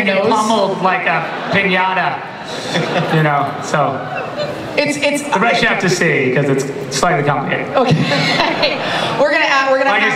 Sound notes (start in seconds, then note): 2.5 laughter; 7.8 laughs